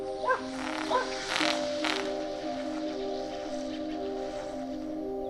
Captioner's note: weed eater whirring